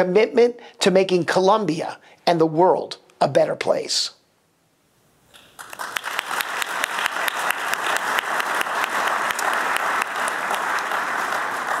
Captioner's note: applause